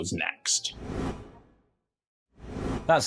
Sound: dots whooshing

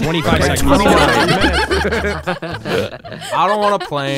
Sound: all laughing

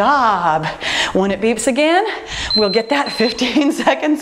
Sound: timer beeping

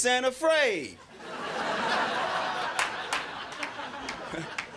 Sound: crowd laughing

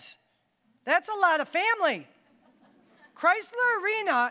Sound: audience chuckling

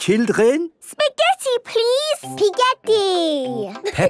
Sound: laughing

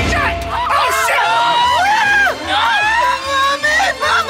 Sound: screaming

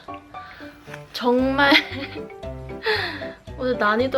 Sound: laughs

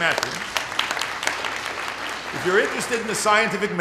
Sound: applause

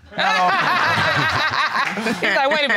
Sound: all laughing

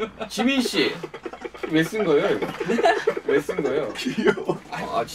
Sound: continues giggling; laughs

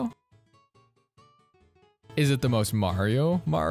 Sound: pause

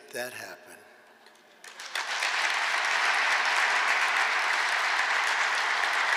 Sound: applause

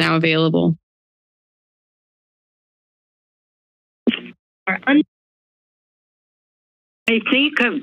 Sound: silence

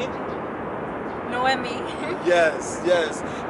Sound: giggles

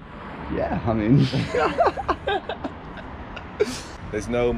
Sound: both laughing

